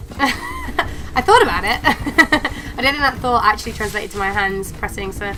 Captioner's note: laughter